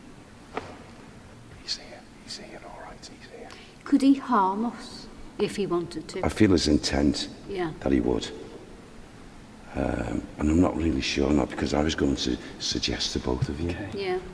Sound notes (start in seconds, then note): none